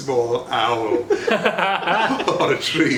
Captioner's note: laughs